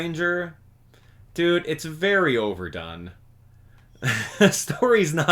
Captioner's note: chuckle